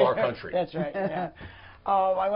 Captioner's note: laughter